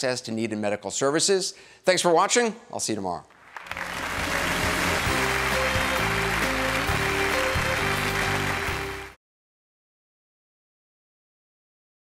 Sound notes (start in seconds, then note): 3.4 audience applauding; 3.6 bright music